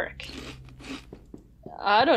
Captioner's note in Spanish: el crujido se intensifica